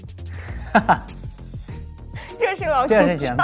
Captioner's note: haha